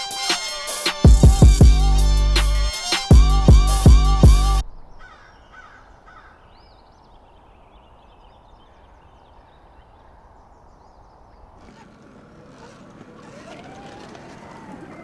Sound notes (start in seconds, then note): 5.3 birds cawing; 11.0 e-bike whirring